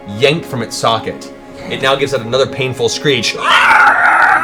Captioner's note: screeches